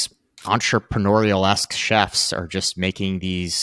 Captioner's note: screen clicking